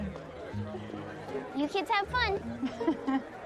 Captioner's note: chuckling